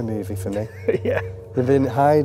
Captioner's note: chuckles